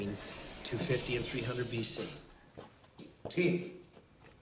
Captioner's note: sliding door whooshing